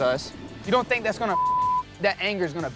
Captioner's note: beep